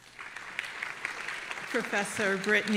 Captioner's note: audience applauding